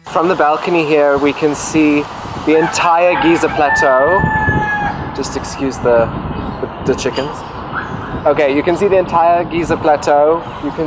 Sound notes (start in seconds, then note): 4.5 rooster crowing